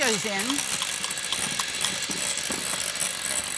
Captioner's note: whisking